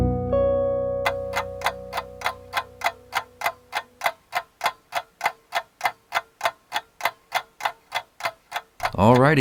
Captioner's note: clock ticking